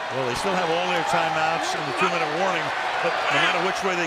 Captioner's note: cheering